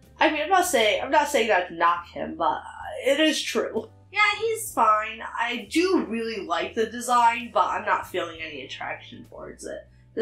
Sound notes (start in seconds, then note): none